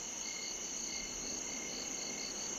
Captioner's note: crickets chirp